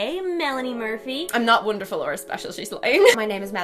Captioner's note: laughs